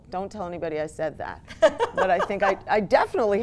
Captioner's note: laughs